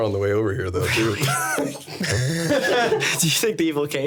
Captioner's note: everyone laughing